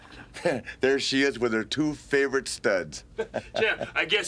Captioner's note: laughs